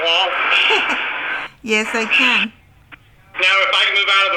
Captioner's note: laughs; voiceover